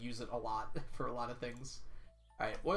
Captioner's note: chuckles